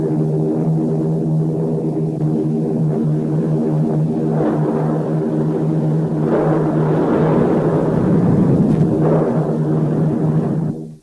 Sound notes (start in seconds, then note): 6.3 explosions booming